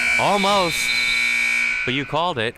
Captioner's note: whistle chirping